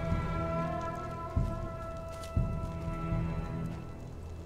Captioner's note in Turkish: Ayak Sesleri